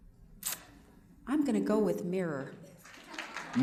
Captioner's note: applause